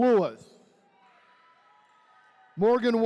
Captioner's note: attendees cheering